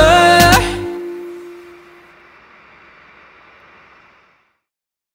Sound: truck sounds

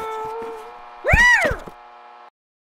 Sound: meow; meow!!!

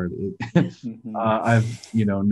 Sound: chuckles

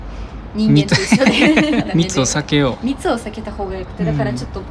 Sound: laughs

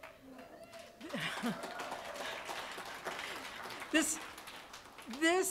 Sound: applause

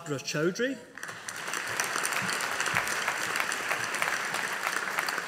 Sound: audience applauding

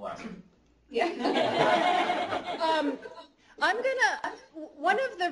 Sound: laughter

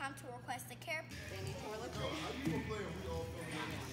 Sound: chatter

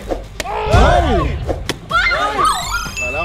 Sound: cheering / screams

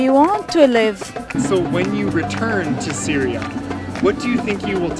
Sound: voiceover

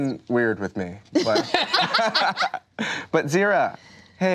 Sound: laughter

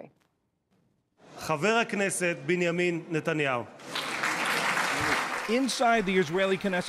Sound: applause

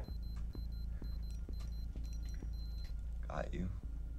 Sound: watch beeping

